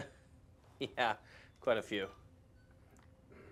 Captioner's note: laughs